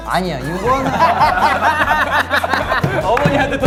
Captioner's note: laughing